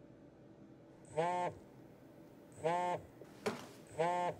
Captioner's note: phone vibrates